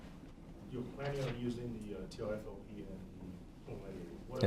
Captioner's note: faintly speaking